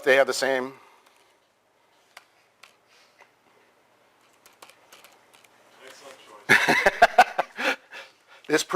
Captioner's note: pause